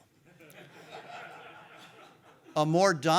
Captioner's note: audience laughing